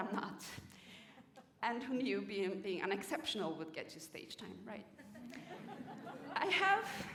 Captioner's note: laughter